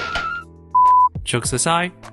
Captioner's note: beep